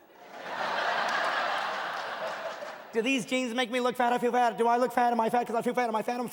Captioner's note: audience laughing